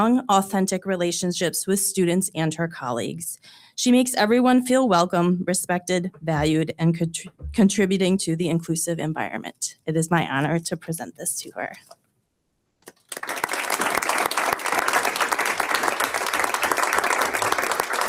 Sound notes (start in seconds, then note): 12.9 audience applauds